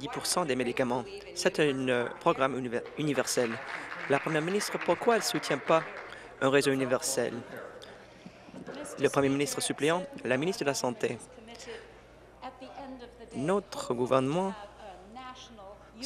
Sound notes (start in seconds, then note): 5.6 applause